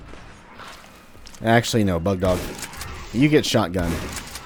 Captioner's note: shotgun blasting